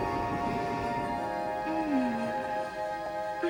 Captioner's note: sighing